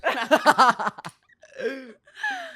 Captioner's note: laughs